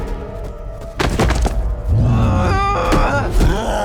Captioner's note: grunting